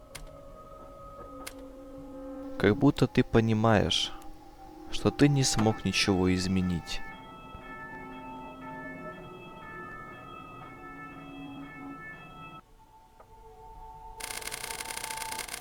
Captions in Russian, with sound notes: Как будто ты понимаешь, что ты не смог ничего изменить. [колокольчик]